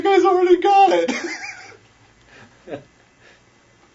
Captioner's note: laughs